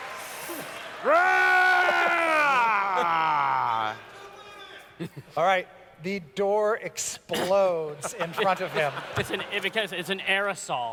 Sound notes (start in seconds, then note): 1.9 roars